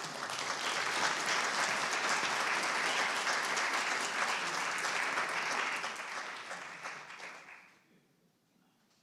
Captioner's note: applause